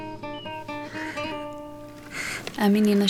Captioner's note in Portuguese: Respiração profunda; em off